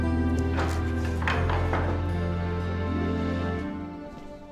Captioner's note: door opens